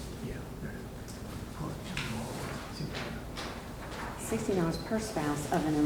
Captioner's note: faintly speaks